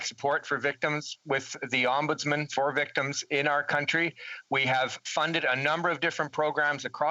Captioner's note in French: voix de l'interprète